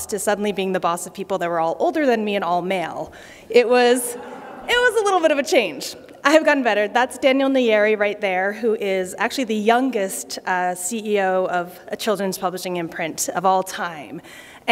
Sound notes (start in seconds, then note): 4.0 laughter